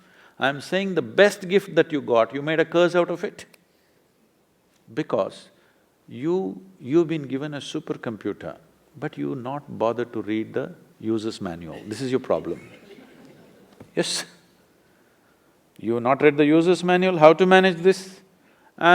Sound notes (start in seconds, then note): 14.4 laughter